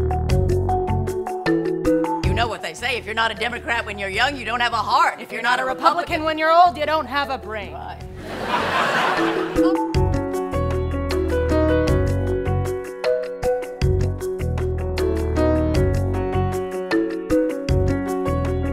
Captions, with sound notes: - You know what they say, if you're not a democrat when you're young, you don't have a heart. - If you're not a republican-- - If you're not a republican when you're old you don't have a brain. - Right. (audience laughs) (upbeat music)